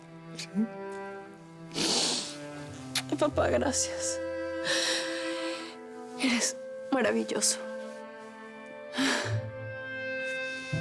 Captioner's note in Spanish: Sollozo